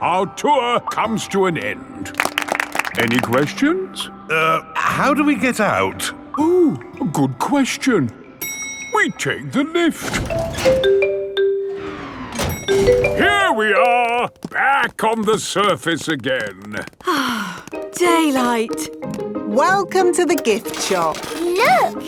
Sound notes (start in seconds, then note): 2.1 all clapping; 10.3 elevator dings; 17.0 sighs